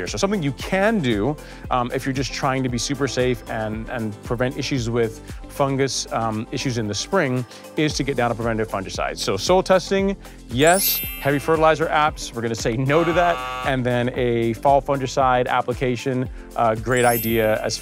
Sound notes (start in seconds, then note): 10.6 chimes chiming; 12.9 buzzer buzzing; 16.9 chimes chiming